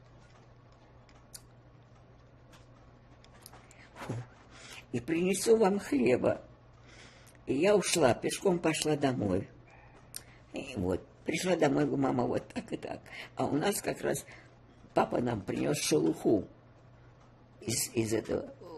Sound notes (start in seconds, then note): 3.7 sighing